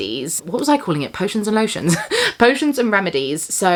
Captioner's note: laughs